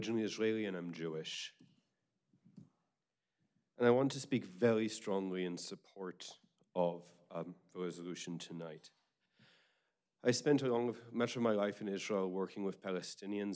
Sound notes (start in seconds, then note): none